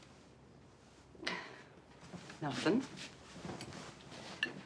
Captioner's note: sighing